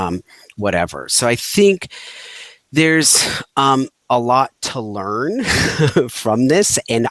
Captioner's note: chuckling